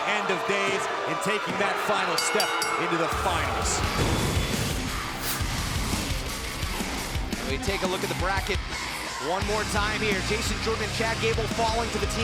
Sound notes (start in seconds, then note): 4.1 bell ringing